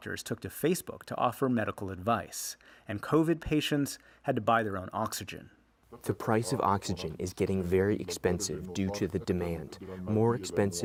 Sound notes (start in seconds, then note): 5.4 through translator